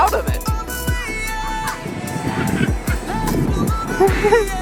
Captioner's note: laughing in background; chuckling